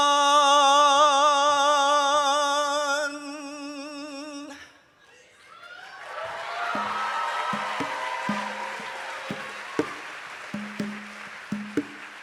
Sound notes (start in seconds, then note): 5.6 audience cheers; 8.3 rhythmic percussion music